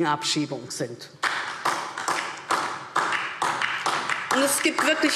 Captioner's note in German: Beifall DIE LINKE